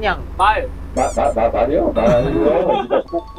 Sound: startled

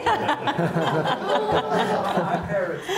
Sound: audience laughing

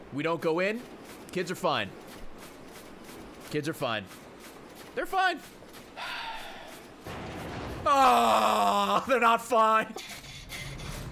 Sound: sighs

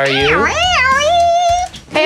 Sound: whines

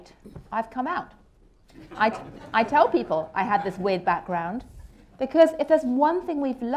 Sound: laughter

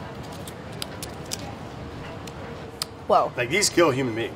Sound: crunching

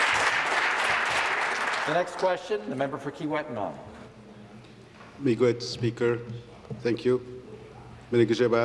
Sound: applause

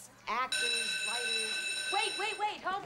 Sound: bell rings

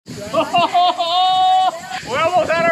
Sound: happily exclaiming

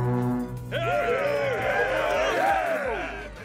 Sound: Ogres cheering

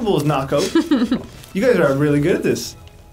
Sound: laughs

